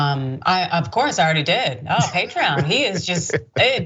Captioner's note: laugh